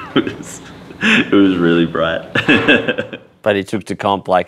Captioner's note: laughs